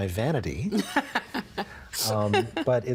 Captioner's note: laughing